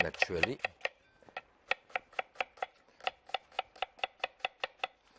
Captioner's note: chopping board tapping